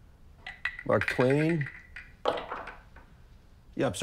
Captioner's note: bobblehead thumping